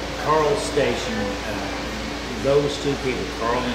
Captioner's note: none